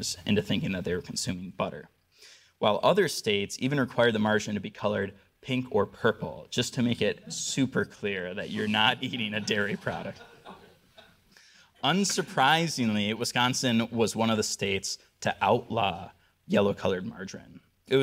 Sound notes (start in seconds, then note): 10.3 audience laughing